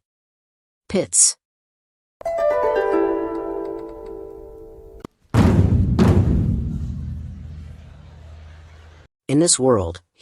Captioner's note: sound effect